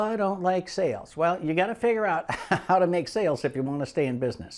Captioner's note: giggles